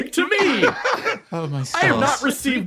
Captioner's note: laugh